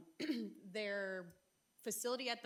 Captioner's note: clearing throat